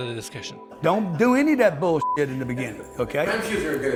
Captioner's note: beep